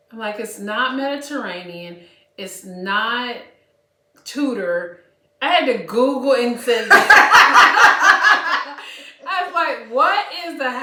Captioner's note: laughter